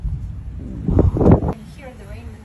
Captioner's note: thunder